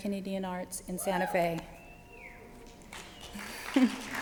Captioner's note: cheering; applause